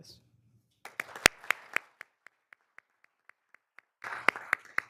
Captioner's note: all applauding